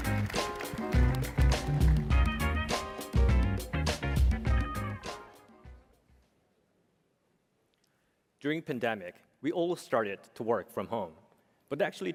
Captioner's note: applause